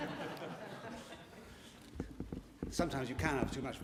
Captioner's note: laughter